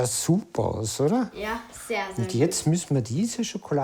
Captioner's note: speaking in foreign language